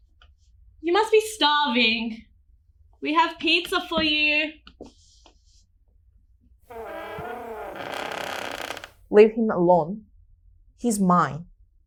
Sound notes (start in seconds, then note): 6.7 door slowly creaks open